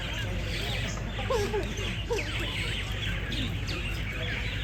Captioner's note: birds in the background